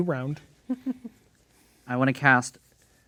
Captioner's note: chuckling